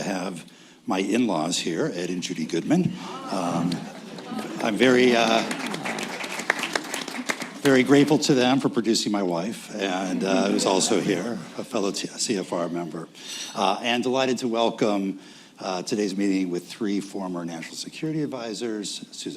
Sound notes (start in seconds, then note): 4.1 applause; 10.0 laugher